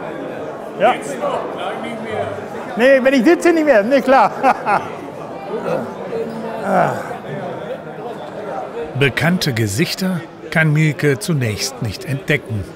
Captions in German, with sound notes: Setz dich doch, gleich nicht mehr. Nee, wenn ich sitze nicht mehr, klar. (Erleichtertes Stöhnen) Bekannte Gesichter kann Mielke zunächst nicht entdecken.